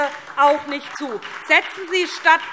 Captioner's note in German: Beifall SPD